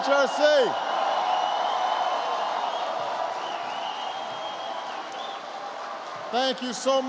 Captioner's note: applause